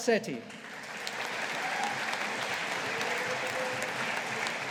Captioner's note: audience applauding